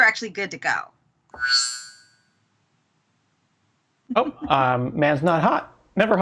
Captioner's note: futuristic whirring